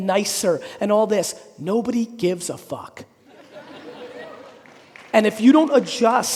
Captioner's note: audience laughing